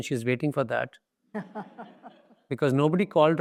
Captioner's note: audience laughs